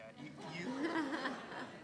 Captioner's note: laugh